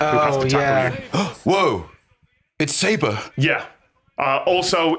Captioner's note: gasps